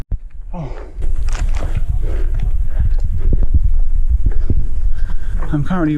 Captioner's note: out of breath